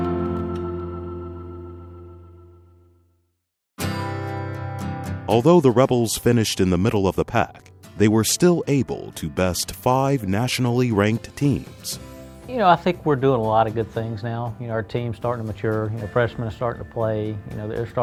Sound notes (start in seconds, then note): 0.0 guitar music; 5.3 voiceover